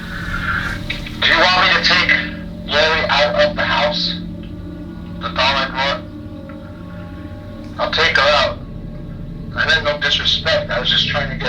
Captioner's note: replays audio from device